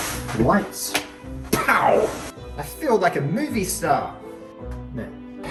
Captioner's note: pow!